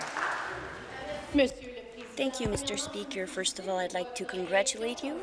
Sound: applause

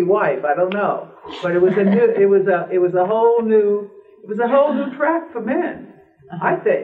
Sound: laughter

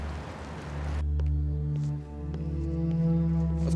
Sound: footsteps

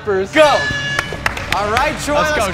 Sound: horn blares

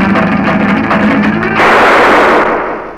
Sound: gunshot

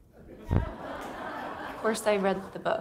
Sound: audience laughing

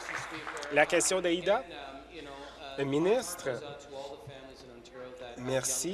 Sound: applause

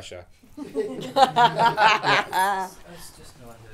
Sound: audience laughing

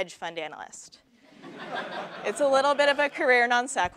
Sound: laugh

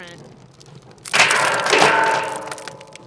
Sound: metal clanging; fire crackling

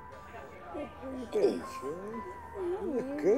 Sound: murmuring

